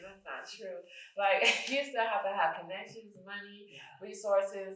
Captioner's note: chuckles